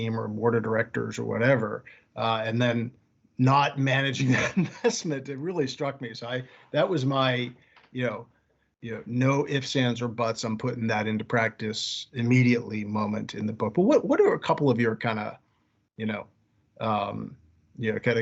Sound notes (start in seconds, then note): 4.2 laughing